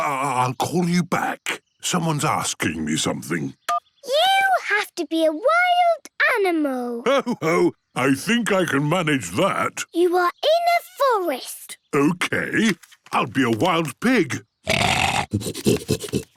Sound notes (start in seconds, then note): 3.5 phone beeps; 14.6 snorting